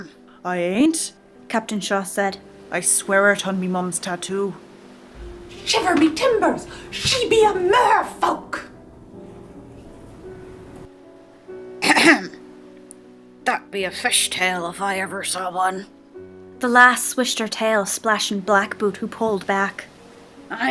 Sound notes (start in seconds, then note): 11.8 cough